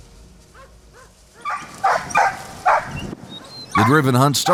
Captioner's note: dog barking